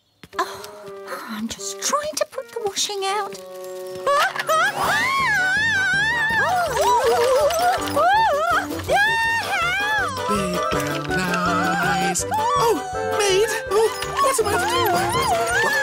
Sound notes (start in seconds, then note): 0.4 sighs; 4.6 screams